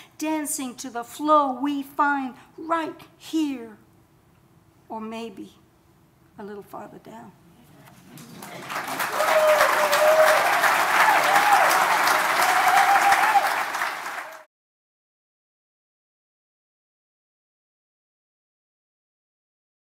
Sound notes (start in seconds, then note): 8.1 audience applauding